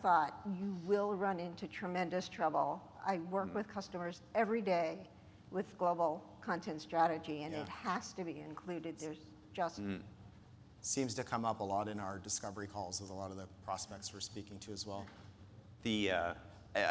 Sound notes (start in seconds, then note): none